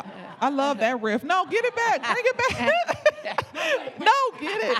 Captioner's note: laughing